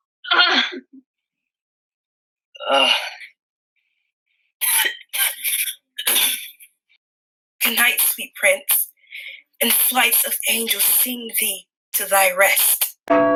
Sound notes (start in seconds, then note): 0.3 groans and dies; 4.6 coughs and dies